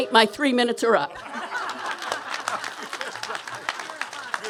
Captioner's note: laughter, applause